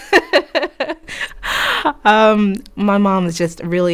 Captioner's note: laughter